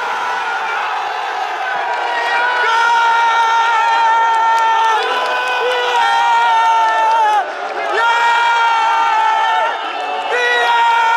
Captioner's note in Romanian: Aplauze